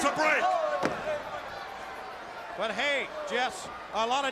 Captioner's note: crowd chatter